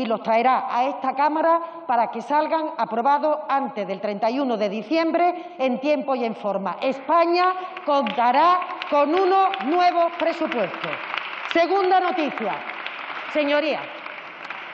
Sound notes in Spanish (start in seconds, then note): 11.1 Aplausos